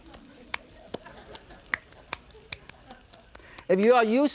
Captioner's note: laughter